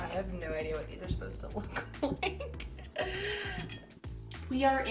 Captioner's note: giggles